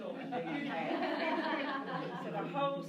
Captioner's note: laughter